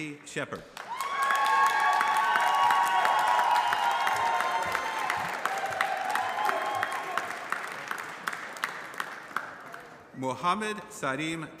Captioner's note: applause